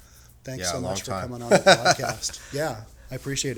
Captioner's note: chuckles